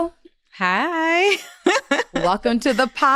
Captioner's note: laughs